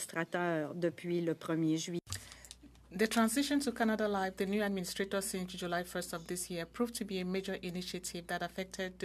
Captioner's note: speaking French